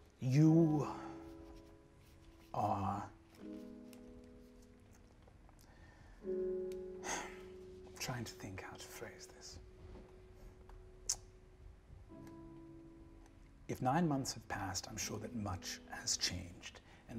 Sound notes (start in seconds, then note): 7.0 sighs